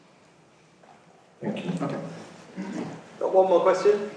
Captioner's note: voiceover